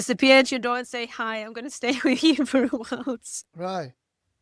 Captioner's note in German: lacht